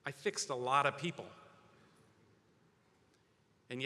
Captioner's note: none